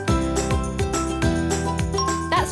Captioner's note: bell dinging